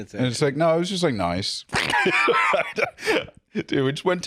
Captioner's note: laughs